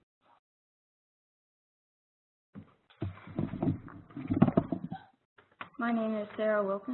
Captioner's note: pause